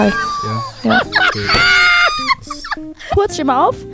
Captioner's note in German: Kreischendes Lachen